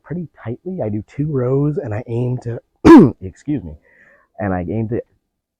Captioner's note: coughs